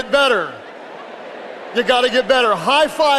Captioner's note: audience chattering indistinctly